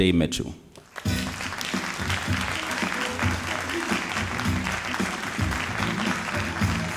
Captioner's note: all applauding